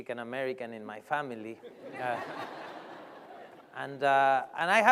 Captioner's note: laughter